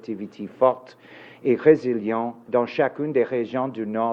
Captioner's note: speaking in French